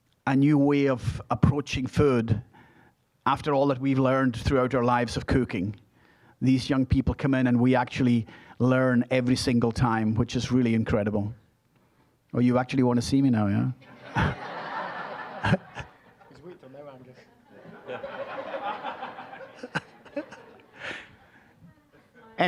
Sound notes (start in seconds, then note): 13.8 audience laughing